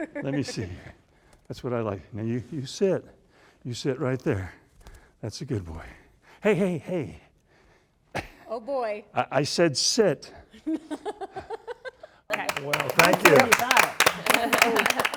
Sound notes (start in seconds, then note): 12.2 laughter